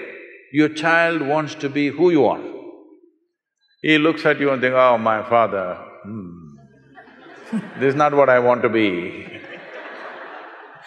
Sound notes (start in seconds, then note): 6.8 laughter